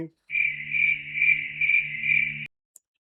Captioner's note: sound of crickets